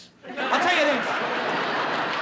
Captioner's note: audience laughs